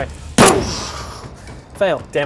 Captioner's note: boosh!